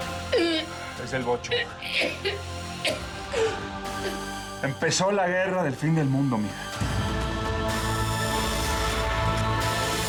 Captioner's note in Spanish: exhala; ella tose